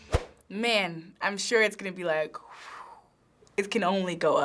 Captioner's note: imitates air whooshing